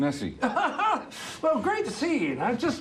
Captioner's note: Maurice laughing